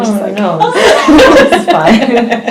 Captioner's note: laughs